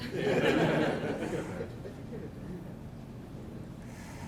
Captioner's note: laughing